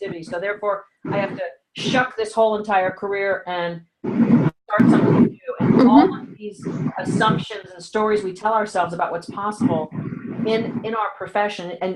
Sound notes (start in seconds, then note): 4.0 audio dropping